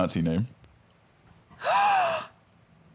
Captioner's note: gasps